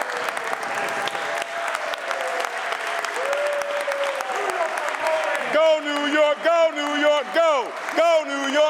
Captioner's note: applause